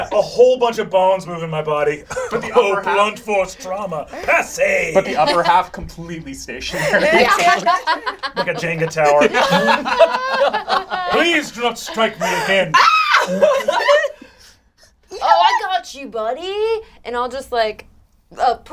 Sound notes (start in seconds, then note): 7.1 all laugh; 12.7 shrieks